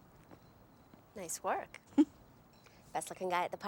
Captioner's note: chuckles